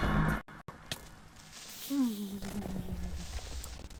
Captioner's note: nervous Noises